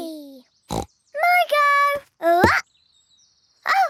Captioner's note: snorts